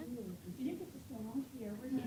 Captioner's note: laughter